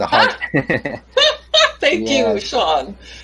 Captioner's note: both laugh